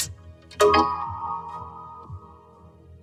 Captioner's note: doorbell rings